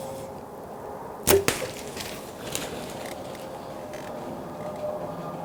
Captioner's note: arrow shooting